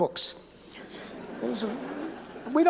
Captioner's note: laughter